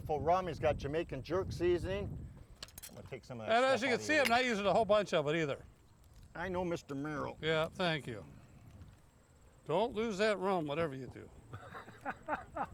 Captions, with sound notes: has got Jamaican jerk seasoning. Now take some of that-- - And as you can see, I'm not using a whole bunch of it either. - I know Mr. Merrill. - Yeah, thank you. Don't lose that rum, whatever you do (laughs).